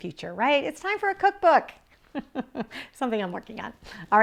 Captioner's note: laughs